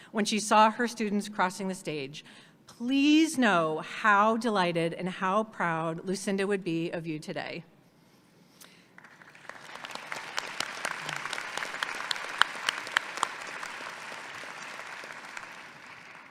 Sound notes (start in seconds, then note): 8.9 audience applauds